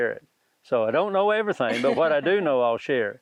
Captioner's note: laughs